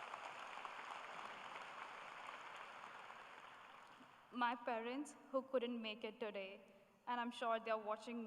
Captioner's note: applause